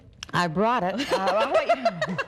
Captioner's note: laughing